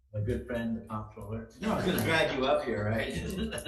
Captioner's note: assembly laughs